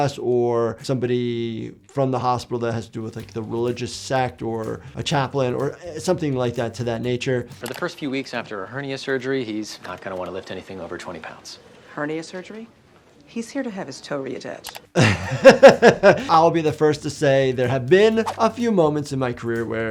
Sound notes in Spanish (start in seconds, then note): 14.9 riendo